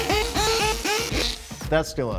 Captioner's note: drilling